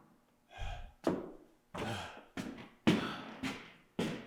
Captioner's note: board thuds; Jacob panting